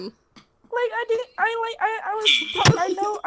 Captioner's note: giggle